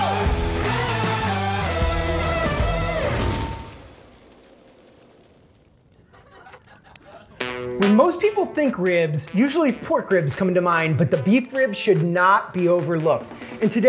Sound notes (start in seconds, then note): 3.6 flames crackling; 6.0 laughing; 7.4 guitar string twanging